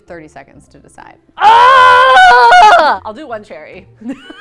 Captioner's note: screams